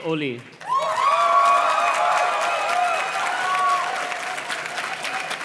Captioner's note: audience cheers and claps